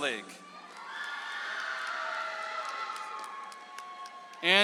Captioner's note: audience applauds